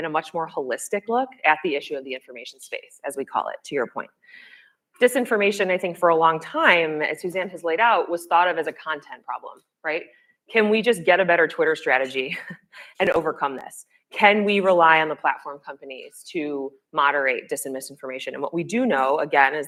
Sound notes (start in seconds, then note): 12.6 laughs